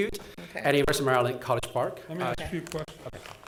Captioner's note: audio crackling